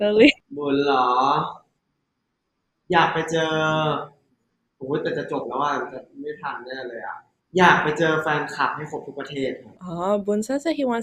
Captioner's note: answering in Thai